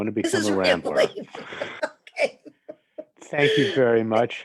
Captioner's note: laughing